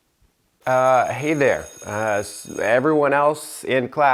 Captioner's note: bell ringing